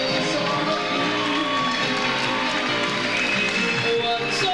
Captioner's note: audience cheers